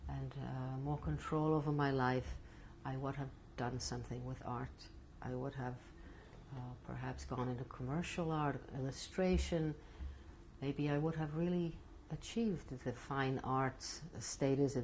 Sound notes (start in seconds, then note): none